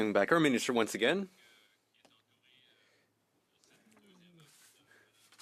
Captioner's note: speaking French